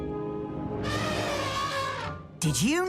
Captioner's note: elephant trumpets